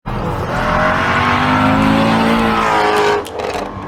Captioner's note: Godly Shelby GT350R Noises